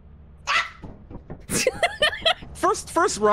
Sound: laughs

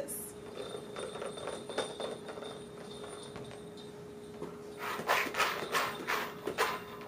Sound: bell Noise; rattle Noise

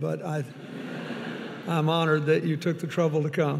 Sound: audience laughing

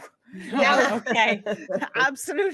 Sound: group laughing

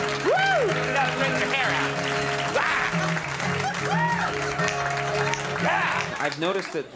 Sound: crowd clapping

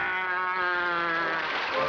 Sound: applause

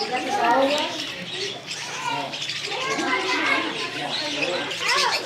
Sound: people chattering indistinctly

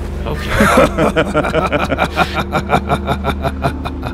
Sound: laghter

